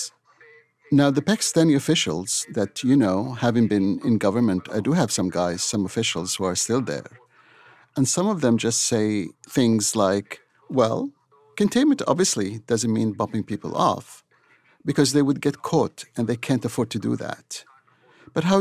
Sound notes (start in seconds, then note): none